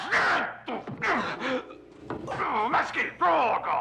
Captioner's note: grunts